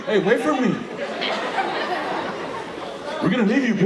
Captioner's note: audience laughing